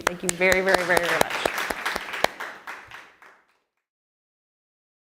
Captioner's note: applause